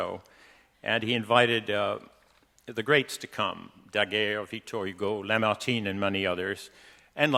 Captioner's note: speaking in foreign language